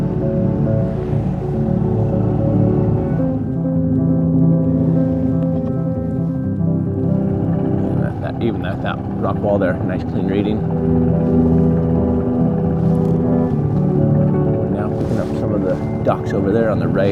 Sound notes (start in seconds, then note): 0.2 soft music continues; 3.0 boat rumbling